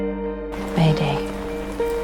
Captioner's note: voiceover